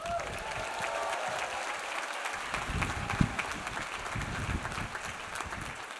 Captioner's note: audience applauds; audience cheers